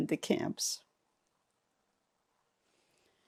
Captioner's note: pauses 6 seconds